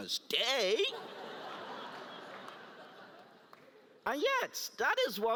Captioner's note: laugh